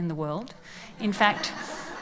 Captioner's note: laughs